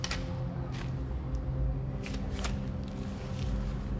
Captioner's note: gloves snapping